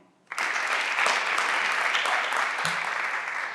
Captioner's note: everyone claps